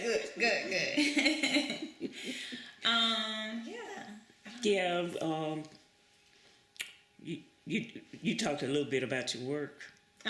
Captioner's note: laughs